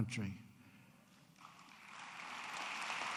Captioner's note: applause